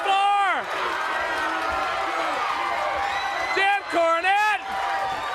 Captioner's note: crowd cheering